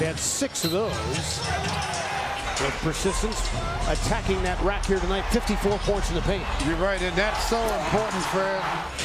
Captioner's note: loud crowd noise